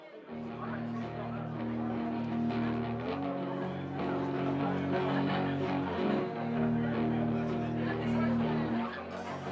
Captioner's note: crowd murmuring